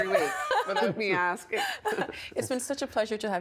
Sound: all laughing

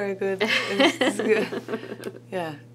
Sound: both laugh

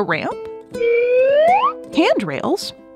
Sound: slide whistle

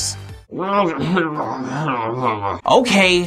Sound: groaning Noises

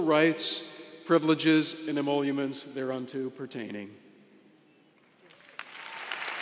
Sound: applause

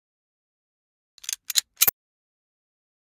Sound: sound of gun click

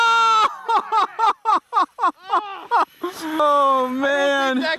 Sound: laughing

